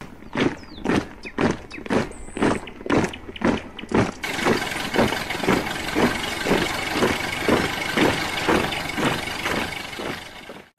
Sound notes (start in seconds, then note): 0.8 sound of footsteps